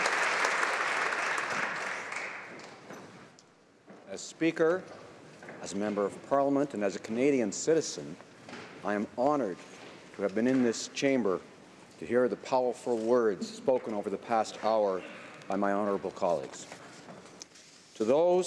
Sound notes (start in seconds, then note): 3.6 applause